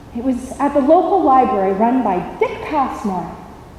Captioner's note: none